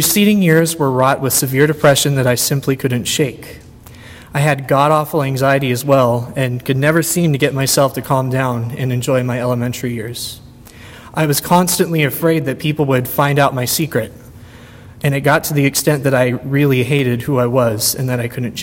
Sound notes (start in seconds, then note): none